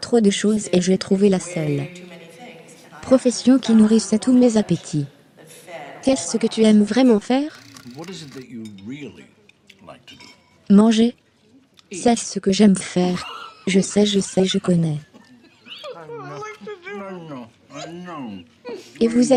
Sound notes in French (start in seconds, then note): 13.1 des rires